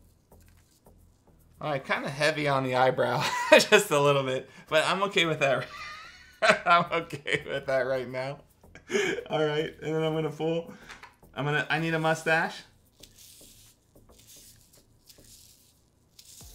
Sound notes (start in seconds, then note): 5.6 laughs